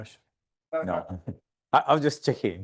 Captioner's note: chuckling